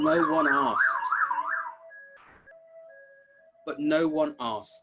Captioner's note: sirens